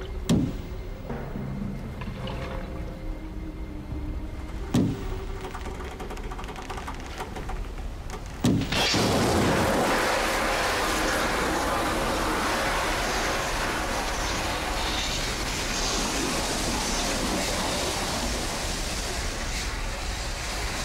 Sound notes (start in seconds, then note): 0.3 knocking on boat; 4.4 boat creaking; 8.7 glass shattering; 11.4 water gushing